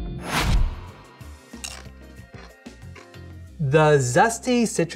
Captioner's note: crunching